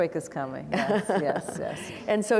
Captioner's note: laughs